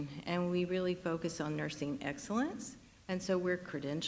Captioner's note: none